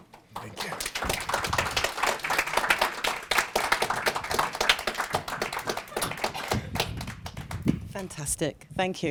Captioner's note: applause